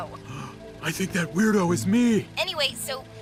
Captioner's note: gasps